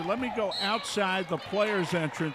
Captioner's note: referee whistling